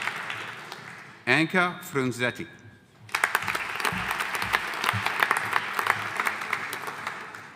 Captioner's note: audience applauding